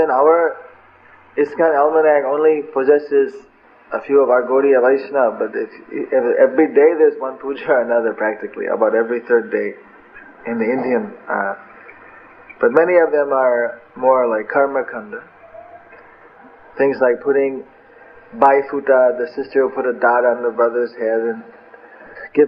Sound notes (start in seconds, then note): 9.9 chuckles